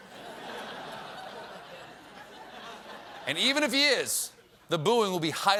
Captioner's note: laughter